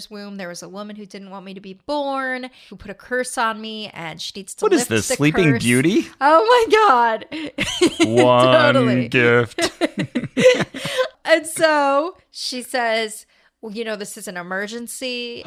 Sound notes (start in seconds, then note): 7.6 laughs